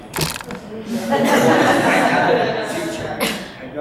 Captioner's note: audience laughs